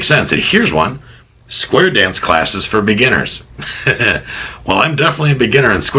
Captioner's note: laughs